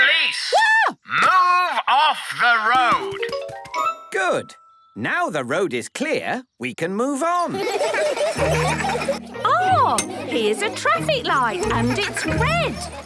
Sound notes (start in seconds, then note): 7.3 laughter